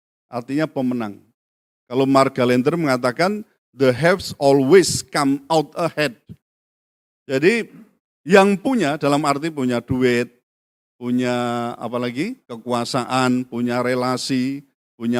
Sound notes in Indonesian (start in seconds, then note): none